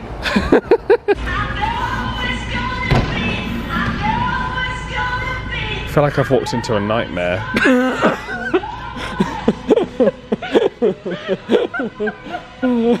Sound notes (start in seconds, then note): 0.2 chuckles; 7.5 laugh